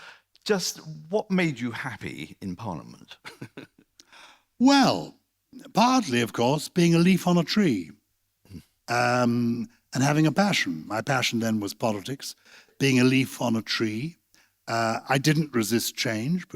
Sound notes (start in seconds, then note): 3.2 laughs